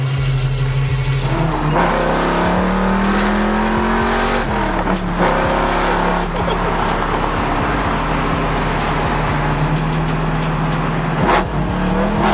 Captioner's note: motor reving